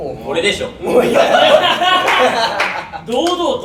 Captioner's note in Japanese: 爆笑